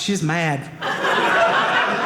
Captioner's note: audience laughing